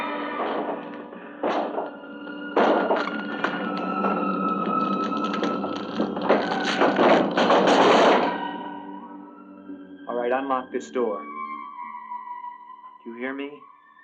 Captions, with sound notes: [suspenseful music] [door banging] All right, unlock this door. Do you hear me?